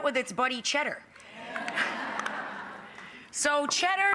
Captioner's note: audience laughing